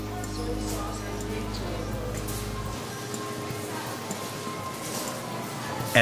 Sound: PA system speaker faintly speaking

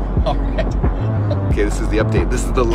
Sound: laughing

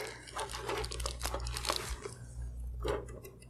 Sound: plastic rubbing

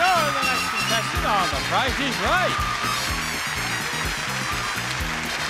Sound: audience applauds

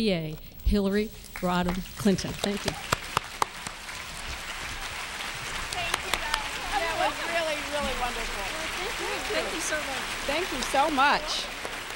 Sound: applause; continued applause

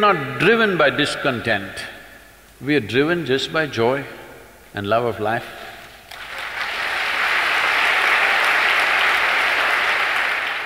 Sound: applause

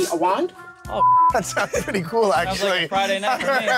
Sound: beep

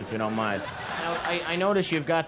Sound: crowd laughs

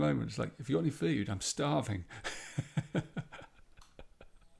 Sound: laughs

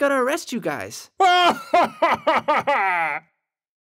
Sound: laughs

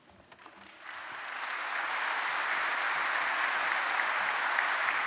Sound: audience applauding

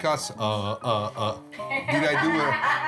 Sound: laughs

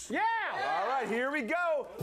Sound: audience cheering

